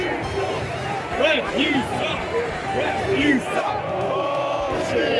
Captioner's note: ”Refs you suck” chant